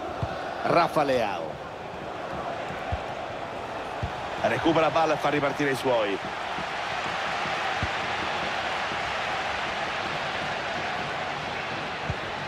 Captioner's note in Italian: Applauso